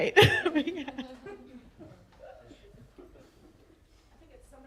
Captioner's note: audience laughter